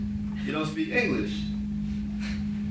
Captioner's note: sighs